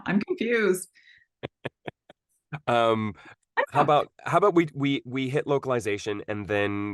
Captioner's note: laughs